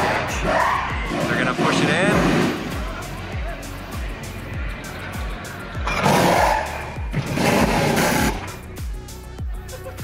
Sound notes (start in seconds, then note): 6.2 machines whirring